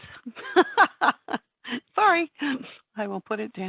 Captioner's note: chuckles